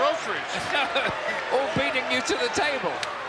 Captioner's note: laughs